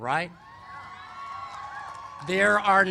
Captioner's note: cheers and applause